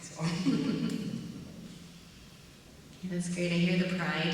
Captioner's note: chuckling